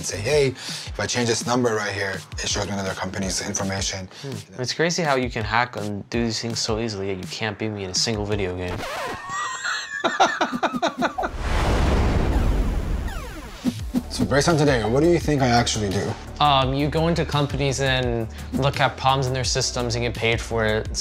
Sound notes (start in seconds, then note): 8.6 record scratching; 9.2 laughing; 11.2 thunder rumbling